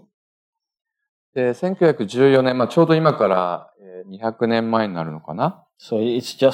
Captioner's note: speaking japanese